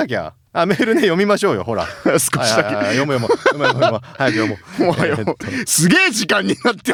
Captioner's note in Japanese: 笑い